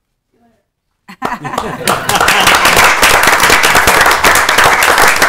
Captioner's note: group applauding